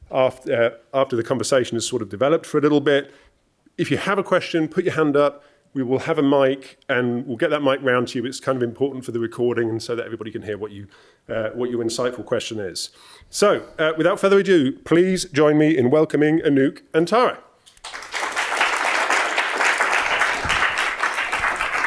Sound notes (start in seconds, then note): 17.7 applause